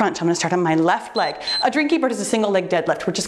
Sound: timer beeps

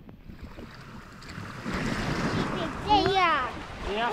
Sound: waves lapping

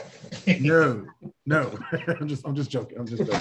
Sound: laughter

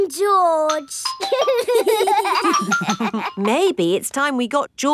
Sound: giggling

